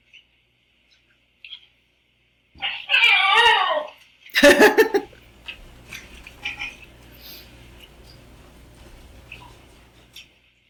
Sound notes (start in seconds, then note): 3.4 dog groaning; 4.3 chuckling